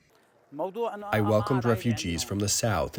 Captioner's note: through translator